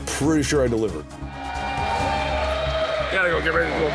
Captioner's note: crowd cheering